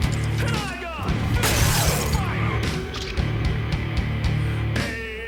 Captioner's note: glass shattering